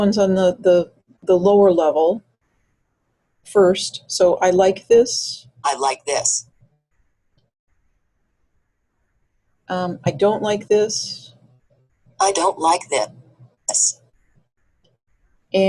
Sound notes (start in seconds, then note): 5.9 voiceover; 12.4 voiceover